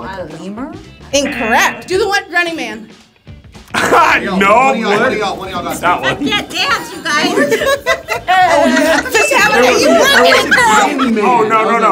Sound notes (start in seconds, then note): 3.7 laughs; 8.2 all laugh